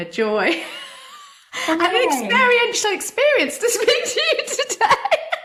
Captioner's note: says laughing